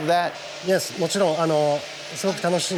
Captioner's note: speaking Japanese